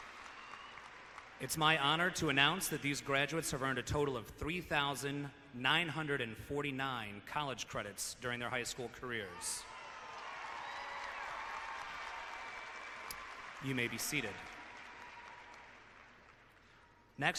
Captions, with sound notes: It's my honor to announce that these graduates have earned a total of 3,949 college credits during their high school careers. (clapping and cheering) You may be seated.